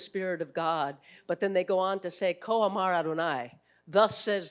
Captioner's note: speaking foreign language